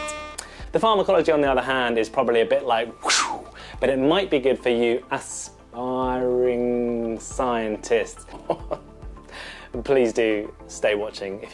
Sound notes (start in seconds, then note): 3.0 whoosh